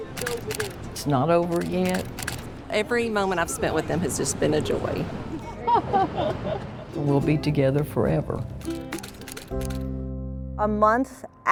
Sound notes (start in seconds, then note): 0.1 camera shuttering; 5.4 everyone laughing; 8.6 camera shuttering; 10.1 bright acoustic music